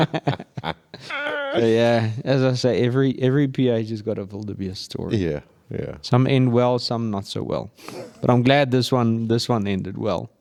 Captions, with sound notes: (laughing) Yeah, as I say, every PH has got a wildebeest story. Some end well, some not so well. But I'm glad this one ended well.